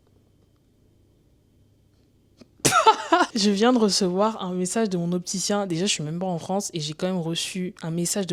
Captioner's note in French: rires